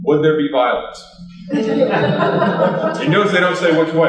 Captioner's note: laughter